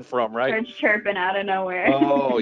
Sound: chuckling

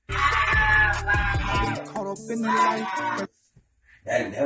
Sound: screaming

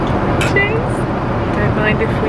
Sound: glasses clink

